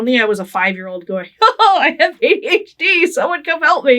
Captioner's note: laughing